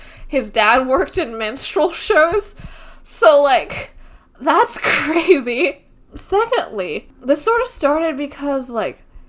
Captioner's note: laughs